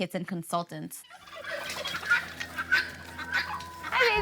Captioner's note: turkeys gobble